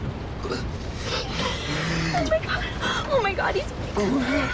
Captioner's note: moaning